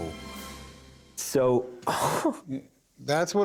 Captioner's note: chuckles